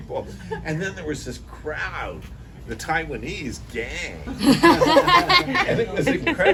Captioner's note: laughter